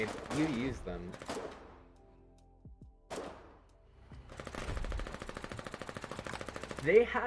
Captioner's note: grenades exploding, moar gunfire under the mystique of night